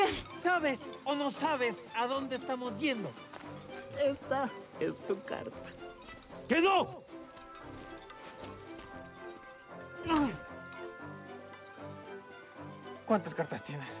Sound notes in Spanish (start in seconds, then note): 9.6 gruñe